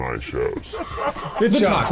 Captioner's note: laughing